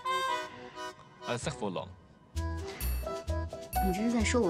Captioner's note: French